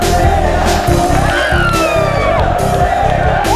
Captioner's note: Aditi & Padmini screaming